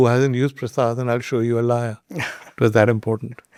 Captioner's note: chuckles